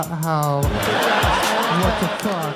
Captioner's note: crowd laughs